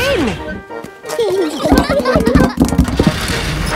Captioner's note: children giggling